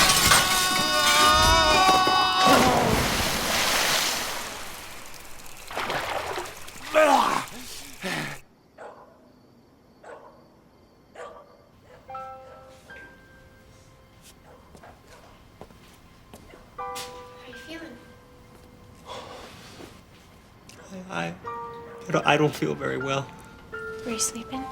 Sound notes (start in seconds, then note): 6.2 crickets chirping; 9.2 dog barking